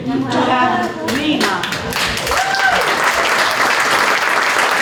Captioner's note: applause